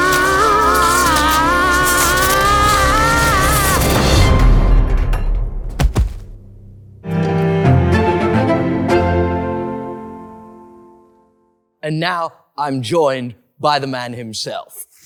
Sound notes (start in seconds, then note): 0.0 very brave screaming and gurgling; 0.0 even braver shreaking; 5.4 thud, thud; 5.7 crunch